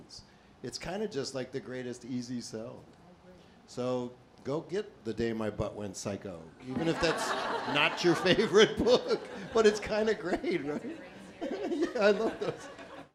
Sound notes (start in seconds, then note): 9.4 laughter